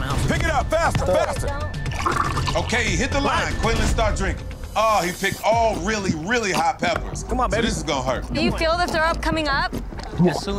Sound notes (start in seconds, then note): 1.9 hot sauce gurgling; 2.0 dramatic music; 10.3 gulping